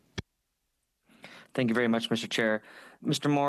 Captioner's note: speaking French